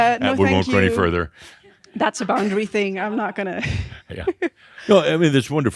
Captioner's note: she giggles